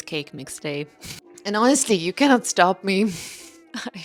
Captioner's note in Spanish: risas